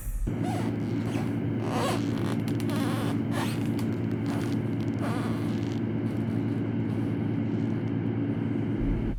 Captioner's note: shoe squeaking on wooden floor